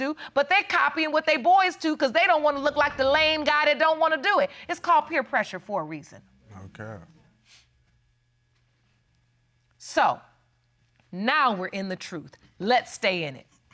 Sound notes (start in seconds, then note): none